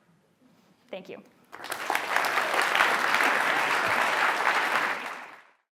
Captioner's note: applause